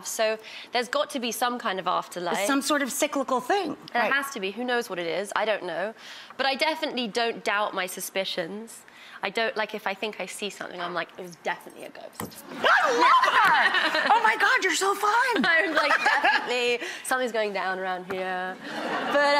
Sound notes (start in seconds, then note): 15.4 laughs